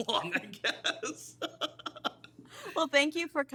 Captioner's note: laughs